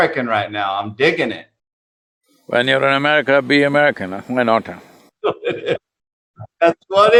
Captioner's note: both laugh